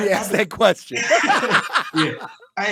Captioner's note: both laugh